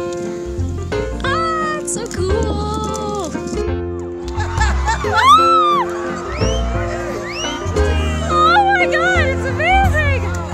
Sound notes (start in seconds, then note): 4.3 screams of joy and wonder